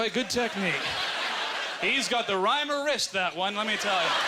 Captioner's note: audience laughter